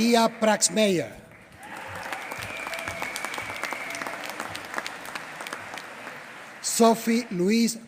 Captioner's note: applause